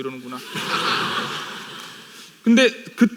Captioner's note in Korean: 웃음